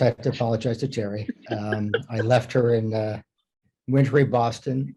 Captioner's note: laughs